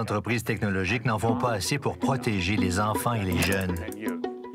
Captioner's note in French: none